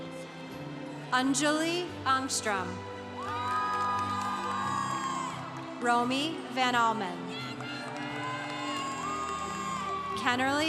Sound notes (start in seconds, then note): 3.1 congregation cheering; 7.2 congregation cheering